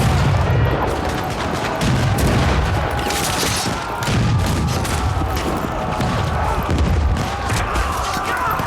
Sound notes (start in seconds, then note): 0.5 cannons blasting